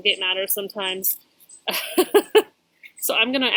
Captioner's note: laughs